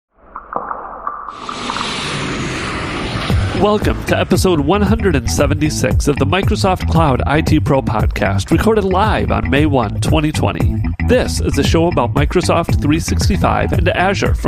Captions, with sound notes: (electronic rain drops) (plane sound) - Welcome to Episode 176 of the Microsoft Cloud IT Pro Podcast, recorded live on May 1, 2020. This is the show about Microsoft 365 and Azure